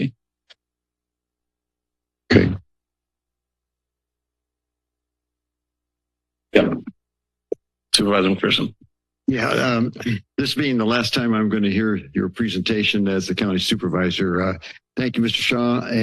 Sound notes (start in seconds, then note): 0.2 silence